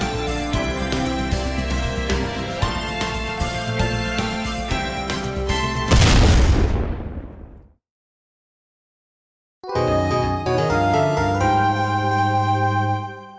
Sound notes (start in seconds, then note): 5.8 explosion!